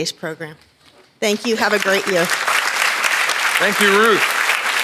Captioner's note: audience applauds